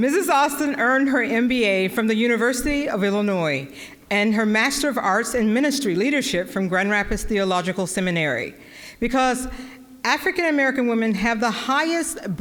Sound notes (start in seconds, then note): none